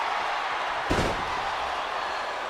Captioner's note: crowd cheering; body slamming